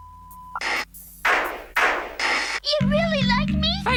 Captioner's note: gun firing